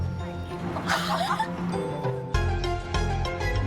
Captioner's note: both laugh